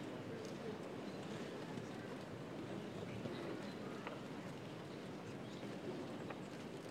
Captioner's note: general chatter